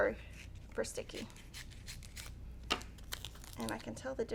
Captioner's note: scissors snipping